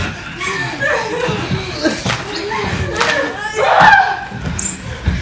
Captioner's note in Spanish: Gritos y gruñidos